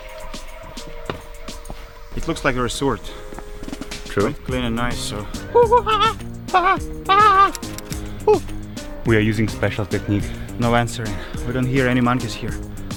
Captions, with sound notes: It looks like resort - True - Clean and nice [Monkey language] We are using special technique No answer We don't hear any monkeys here